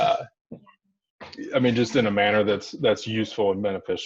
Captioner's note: background chatter